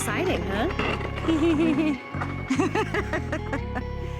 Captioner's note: laughs